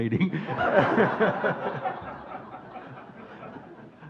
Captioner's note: audience laughing